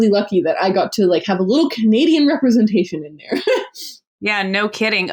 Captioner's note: laughs